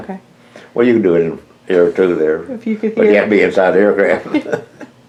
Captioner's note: laughs